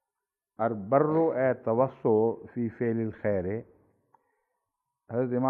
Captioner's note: Arabic